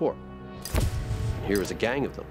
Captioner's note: flash bulb pop